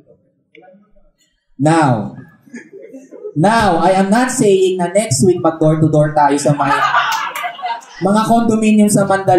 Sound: laughter

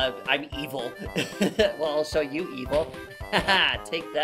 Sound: giggle

